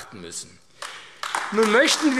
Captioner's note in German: Beifall AfD